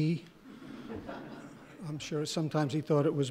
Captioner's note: laughing